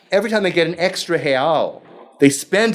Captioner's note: speaking foreign language